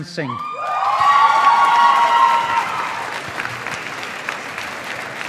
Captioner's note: audience applauding